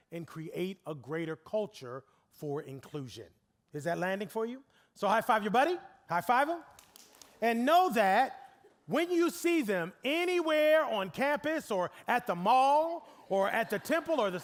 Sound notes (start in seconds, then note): 6.7 scattered clapping